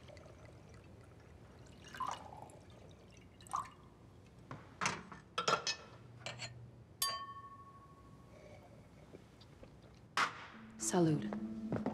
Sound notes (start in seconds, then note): 0.0 A sound of brandy being poured; 7.0 A sound of glasses clinking